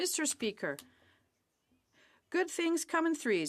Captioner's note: speaking French